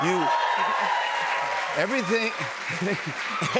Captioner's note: cheers and applause; both laugh